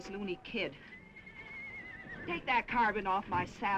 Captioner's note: horse neighing